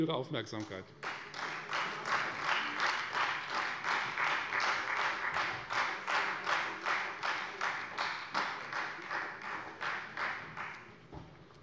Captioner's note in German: Beifall Freie Demokraten